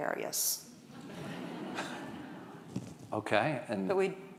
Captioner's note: audience laughing